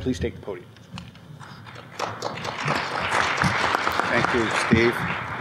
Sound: applause

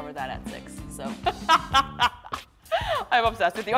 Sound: both laugh

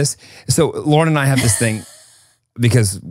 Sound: laughs

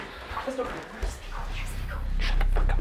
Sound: people murmuring over each other

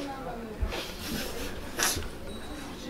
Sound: haha

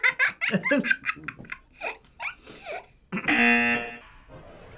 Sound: laughs; buzzer rings

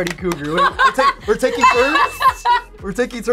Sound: laughs

